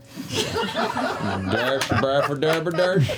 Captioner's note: laughter